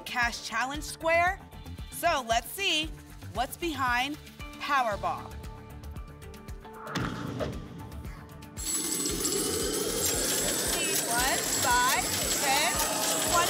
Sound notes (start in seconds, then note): 8.6 raining money sound